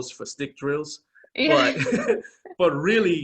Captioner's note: both laughing